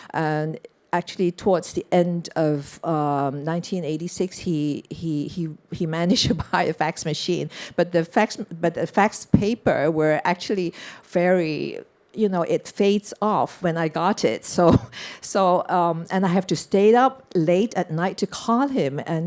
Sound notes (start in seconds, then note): 7.0 chuckles